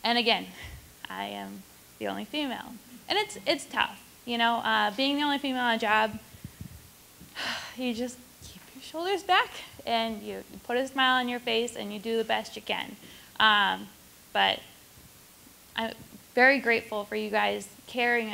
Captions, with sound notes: And again, I'm the only female and it's tough, you know. Being the only female on a job. (sighs) You just keep your shoulders back and you put a smile on your face, and you do the best you can. But I'm very grateful for you guys caring enough